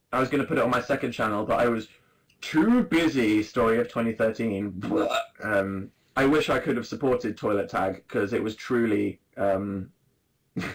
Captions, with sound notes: I was gonna put it on my second channel But I was "too busy"- story of 2013 *Barf noise* Uhm, I wish I could have supported Toilet Tag, because it was truly, um